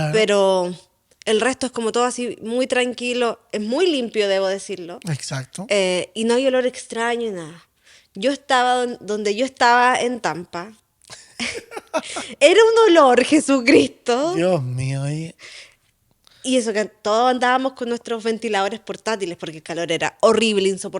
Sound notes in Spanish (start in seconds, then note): 11.1 risas